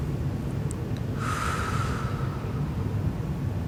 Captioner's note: exhales